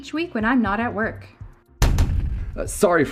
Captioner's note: banging noise